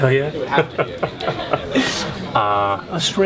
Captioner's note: laughs